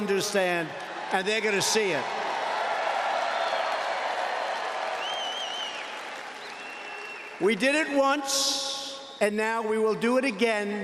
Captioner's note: cheers, applause